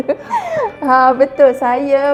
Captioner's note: giggles